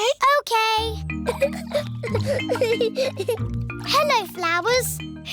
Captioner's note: giggling